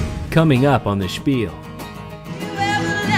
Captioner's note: voiceover; bluegrass music